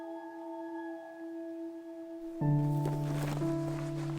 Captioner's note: gentle orchestral music continues; owl hooting